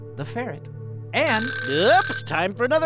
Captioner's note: clock alarm rings